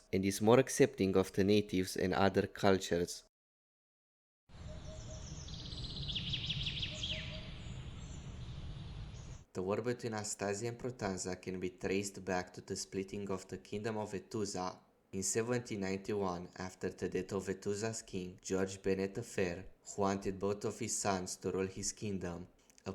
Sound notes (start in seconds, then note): 4.6 bird chirping